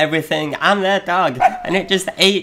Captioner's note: dog barking